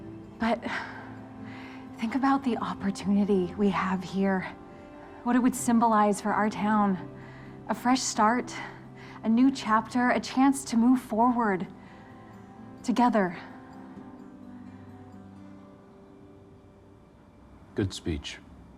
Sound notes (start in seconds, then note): none